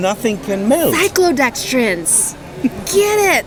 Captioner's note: chuckles